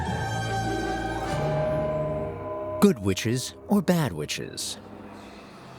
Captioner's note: bell tower ringing